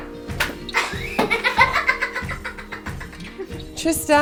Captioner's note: laughing